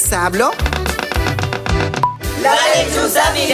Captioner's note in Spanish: Sonido de pájaro carpintero